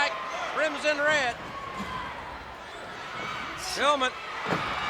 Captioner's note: footsteps plodding